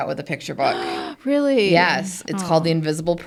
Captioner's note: gasps